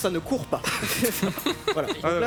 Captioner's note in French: rires